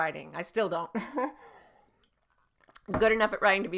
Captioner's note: laughs